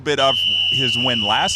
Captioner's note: whistle blowing